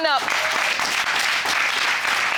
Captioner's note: audience applauding